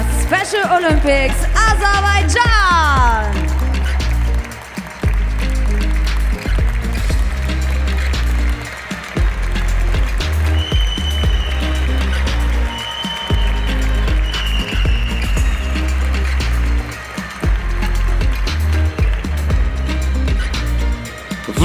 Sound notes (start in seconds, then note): 4.6 applause; 4.6 ♫ Midtempo guitar music ♫